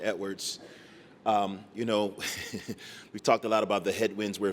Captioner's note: laughter